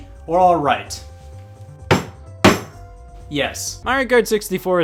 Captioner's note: gavel pounding